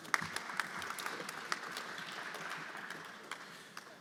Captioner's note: everyone applauding